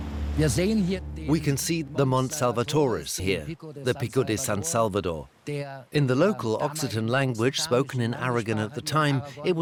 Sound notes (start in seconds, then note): 0.1 in German; 1.3 dubbed in English